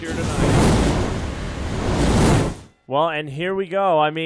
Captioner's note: sizzling fire sound